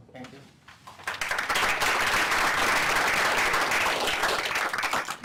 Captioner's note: applause